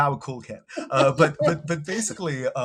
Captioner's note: laughing